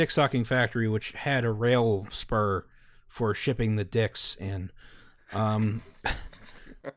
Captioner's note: laughter